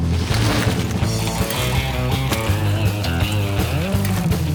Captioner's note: energetic guitar music continues; bikes whooshing